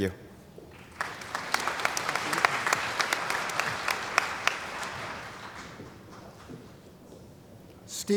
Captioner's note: applause